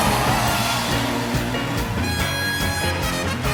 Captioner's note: applause